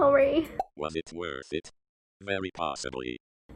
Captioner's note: computer Voice